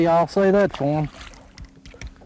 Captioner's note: splash